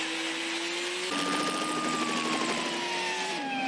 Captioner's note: police sirens; helicopter whirling